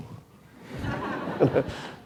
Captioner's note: laughter